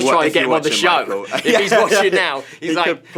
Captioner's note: laughs